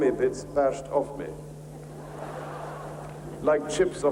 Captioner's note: audience laughing